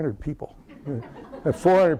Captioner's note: laughter